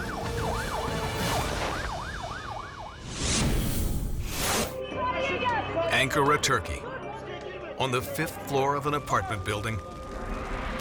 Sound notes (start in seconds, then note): 3.0 logo squishes